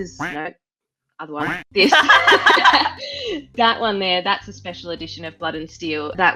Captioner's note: both laugh